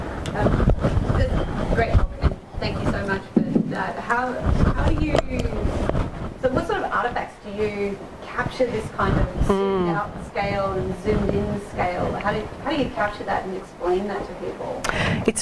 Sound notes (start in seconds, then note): 3.0 voiceover